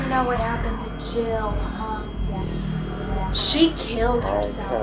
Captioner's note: whoosh